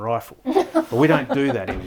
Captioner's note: laughing